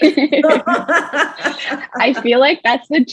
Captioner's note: all laughing